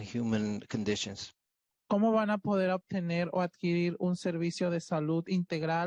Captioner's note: speaking Spanish